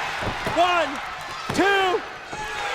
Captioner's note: crowd cheering